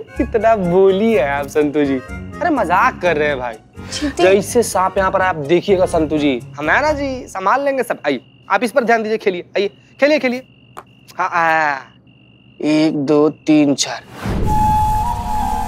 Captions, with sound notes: You are too naive, Ms. Santo. I was just joking. - Cheetah. - If there is a snake spotted here... ...I'll manage it well. Come on, focus on the game. Your turn. [exclaims] One, two, three, four. [eerie music]